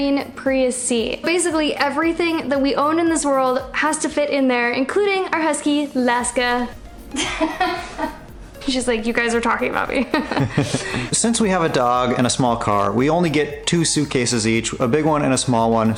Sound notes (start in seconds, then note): 7.1 laughter